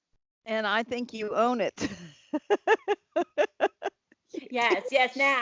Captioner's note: laughs